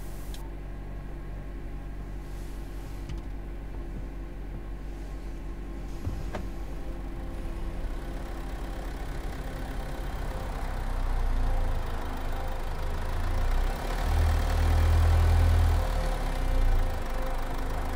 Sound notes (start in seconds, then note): 0.3 recorder turned off; 9.2 sound of car driving